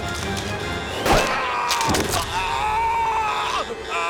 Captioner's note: screaming